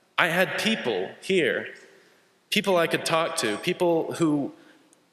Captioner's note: none